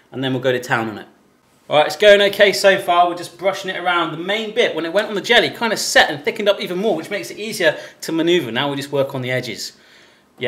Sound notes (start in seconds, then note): none